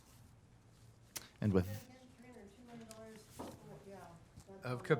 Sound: people chattering

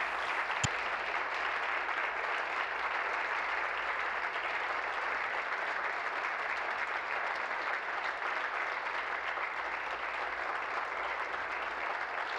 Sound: applause

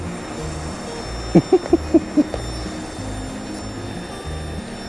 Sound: Jack laughs

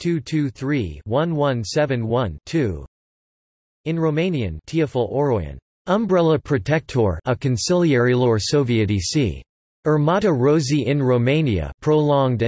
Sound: in Romanian

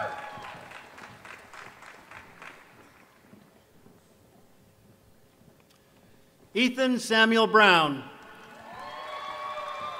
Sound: applause

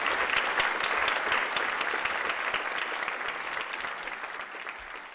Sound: applause

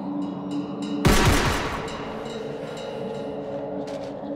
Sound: gun shoots

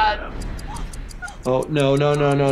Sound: person gasping

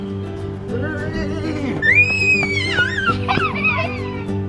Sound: shouting

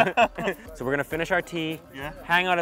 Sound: laughing

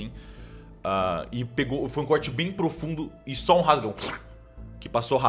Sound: cutting sound

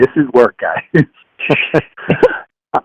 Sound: laughs

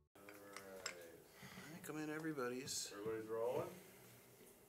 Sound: background Chatter

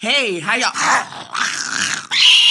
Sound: growling

